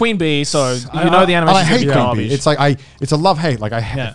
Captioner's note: murmurs